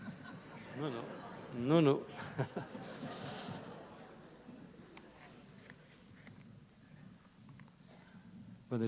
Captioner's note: laughter; laughs